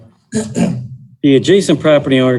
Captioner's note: throat clearing